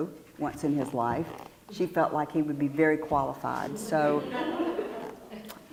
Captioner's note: laugh